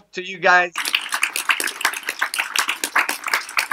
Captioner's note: applause